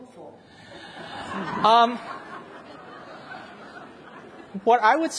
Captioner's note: audience laughs